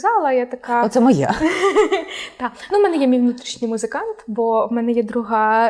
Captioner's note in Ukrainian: сміх